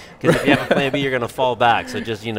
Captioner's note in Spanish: concede risas